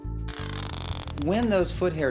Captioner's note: gecko croaks